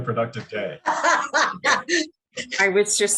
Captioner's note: laughing